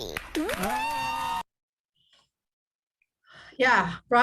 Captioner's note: audience cheers